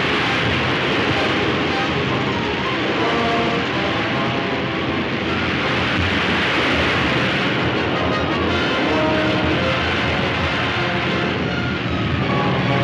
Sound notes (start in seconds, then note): 5.5 crashing